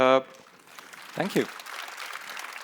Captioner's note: applause